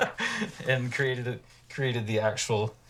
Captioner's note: laughing